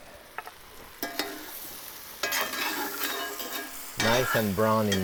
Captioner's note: spoon scraping